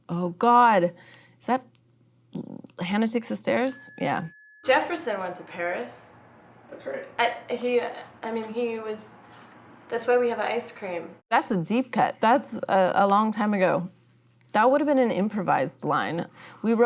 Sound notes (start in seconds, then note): 3.6 bell ringing